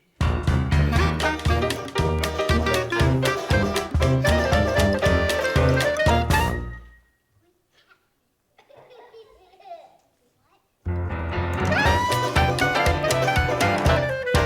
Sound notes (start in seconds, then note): 0.3 bright music continues; 6.5 bright music stops; 8.7 audience laughing; 11.0 bright music continues